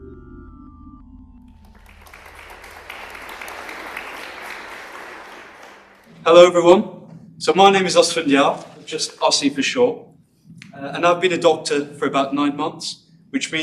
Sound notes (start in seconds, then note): 1.5 applause